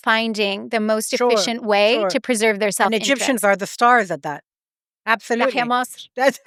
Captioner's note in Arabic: بالعربية